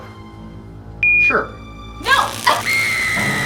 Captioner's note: phone beeps; Kody shrieking; collar crackling